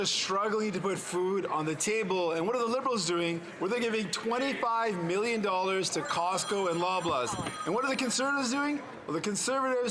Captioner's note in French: voix de l'interprète